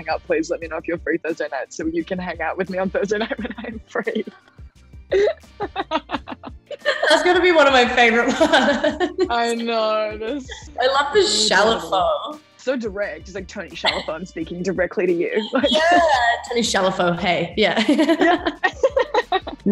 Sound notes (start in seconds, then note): 5.1 laughs; 17.8 laughter